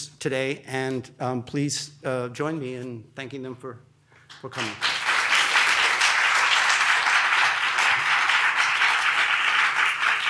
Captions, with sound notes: and please join me in thanking them for coming. (audience applauds)